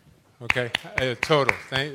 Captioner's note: applause